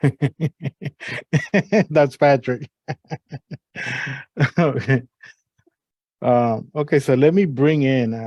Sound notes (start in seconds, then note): 0.0 laughter; 3.8 laugher